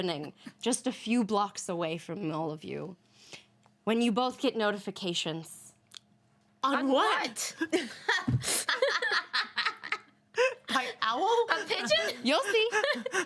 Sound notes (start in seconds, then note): 7.7 women laugh